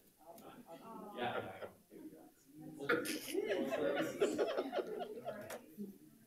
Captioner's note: people chattering and laughing